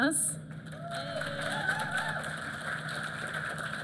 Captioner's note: applause